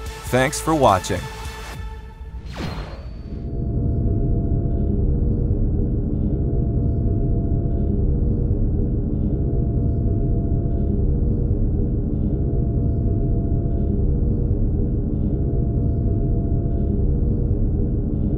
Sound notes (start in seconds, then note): 3.0 electronic humming